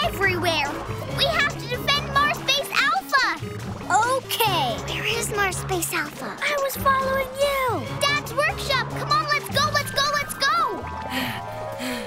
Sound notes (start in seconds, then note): 4.0 whispering; 10.3 panting